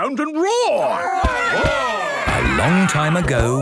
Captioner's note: all roaring